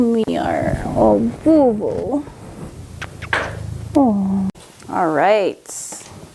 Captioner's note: kisses